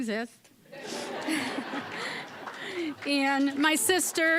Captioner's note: audience laughing